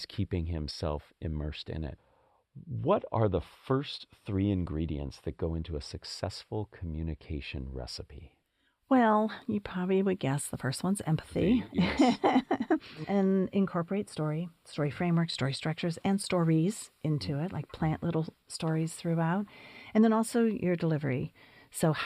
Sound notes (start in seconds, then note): 11.5 laugh